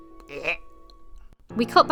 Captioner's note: Retch